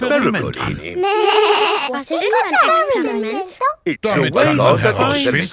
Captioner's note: snorts; bleating